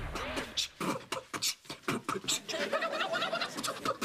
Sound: beat boxing

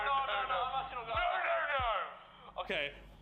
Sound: panicked shouting

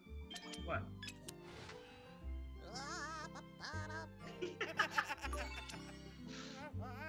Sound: laugh

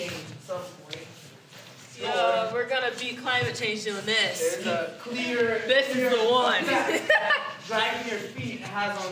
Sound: Lily laughs

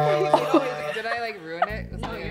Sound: laughing

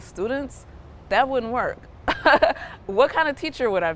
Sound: chuckles

